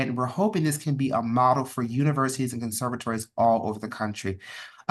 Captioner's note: none